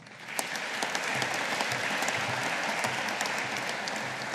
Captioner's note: audience applauding